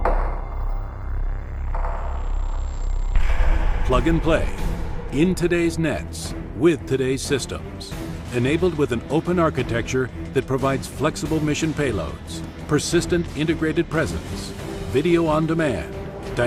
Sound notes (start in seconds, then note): 0.1 dramatic music; 4.2 voiceover